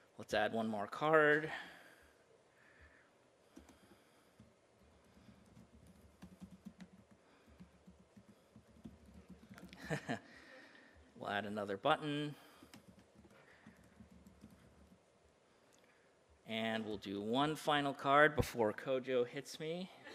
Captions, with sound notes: Let's add one more card. (computer typing) (soft laugh) We'll add another button. (computer typing) And we'll do one final card before Kojo hits me.